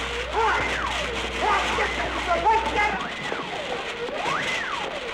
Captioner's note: men chattering